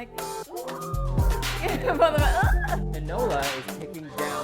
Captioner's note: girl squeals